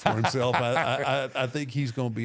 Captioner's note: Michael laughs